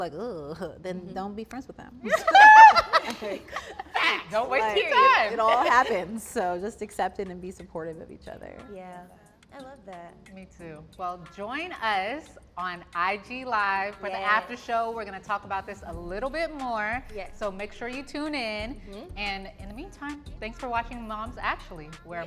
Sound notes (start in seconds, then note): 2.0 laugh